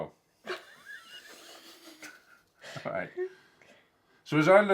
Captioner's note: laughs